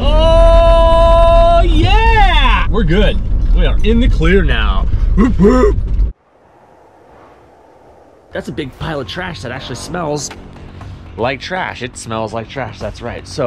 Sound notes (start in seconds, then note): 5.1 barks